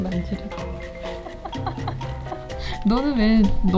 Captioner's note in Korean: 웃음